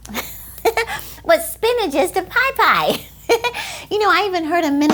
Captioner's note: laughs